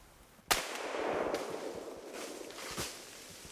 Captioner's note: rifle shot